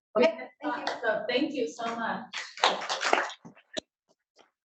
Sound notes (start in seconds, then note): 2.3 audience applauding